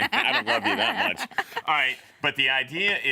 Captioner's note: laughing